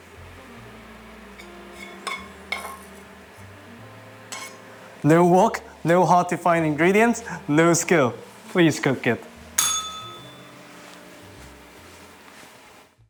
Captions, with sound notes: No wok, no hard-to-find ingredients, no skill. Please cook it. [bell rings]